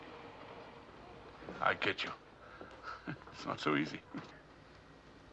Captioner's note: chuckles